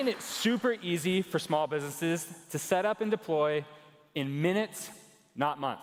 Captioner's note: cheers and applause